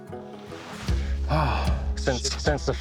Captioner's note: sighs